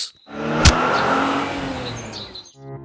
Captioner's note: sound of bus accelerating, loud thump